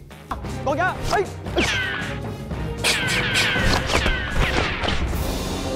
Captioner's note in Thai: ร้อง; เสียงเอฟเฟ็กต์ปืน